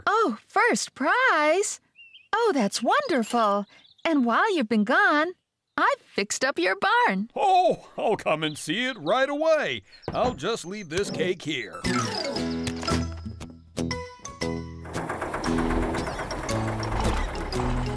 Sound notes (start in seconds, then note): 14.8 engines Running